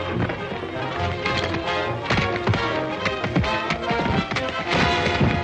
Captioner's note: hooves clomping